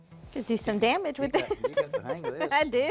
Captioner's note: laughs